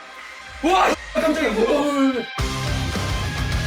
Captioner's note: scream